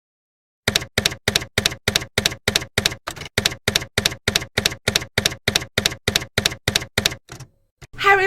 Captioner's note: typewriter keys clacking